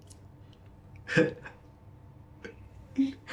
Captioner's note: chuckles